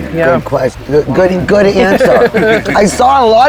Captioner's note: both laughing